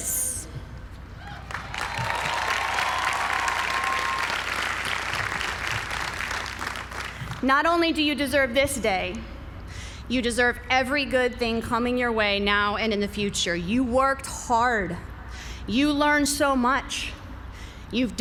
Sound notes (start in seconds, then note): 1.3 applause